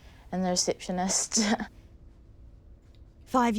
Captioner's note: laughs